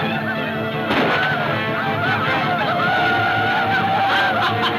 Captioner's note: gunfire pops; laughing